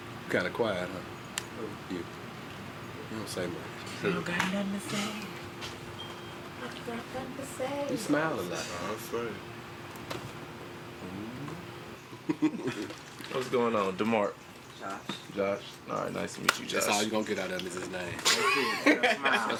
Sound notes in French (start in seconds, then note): 6.6 homme hors champ, se moquant; 12.2 gloussements